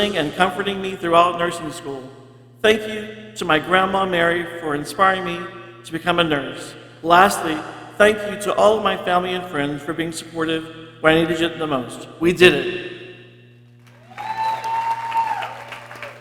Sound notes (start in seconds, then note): 13.8 people cheering